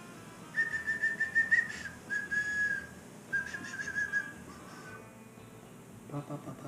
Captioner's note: whistling